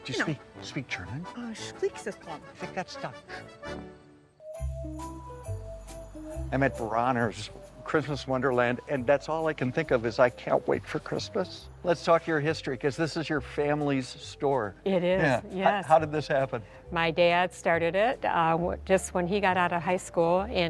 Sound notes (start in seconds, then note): 1.7 speaks in German